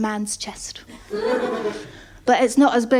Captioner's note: laughter